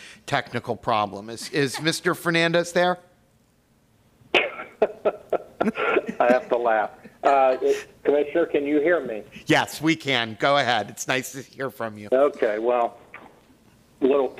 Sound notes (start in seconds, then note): 6.8 laughter